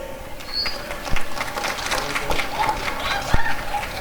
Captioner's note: applause and cheering